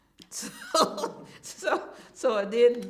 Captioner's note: laughter